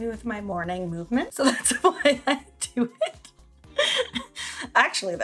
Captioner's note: laughs